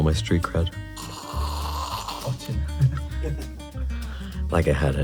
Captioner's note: slurping